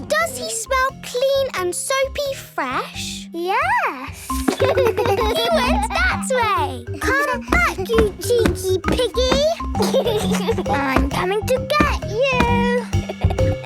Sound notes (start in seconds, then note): 4.4 giggles